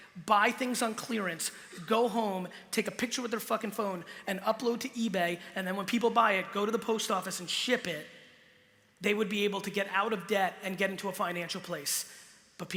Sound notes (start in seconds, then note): none